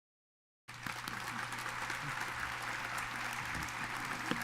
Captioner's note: audience applauds